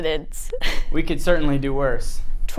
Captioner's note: laughing